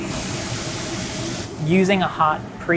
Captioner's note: chicken sizzling